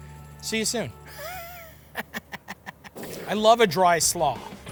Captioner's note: cackles